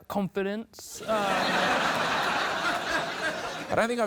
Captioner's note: laughter